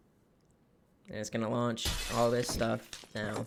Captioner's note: glass shuttering